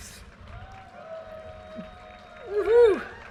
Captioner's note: audience cheers and applause